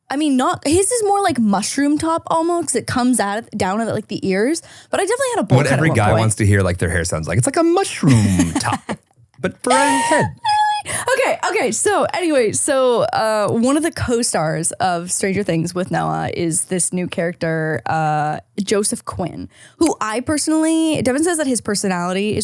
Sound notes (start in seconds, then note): 9.4 laughing